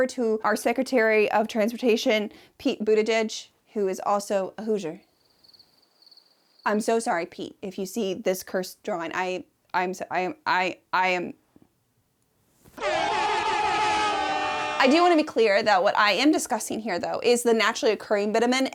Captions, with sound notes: to our Secretary of Transportation, Pete Buttigieg, who is also a Hoosier. (crickets chirping) I'm so sorry, Pete. If you see this cursed drawing, I am... AiR hOrNNNNNNnnNNNNNnnNNN I do wanna be clear that what I am discussing here though, is the naturally occurring bitumen,